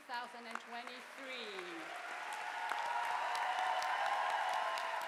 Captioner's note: audience applauding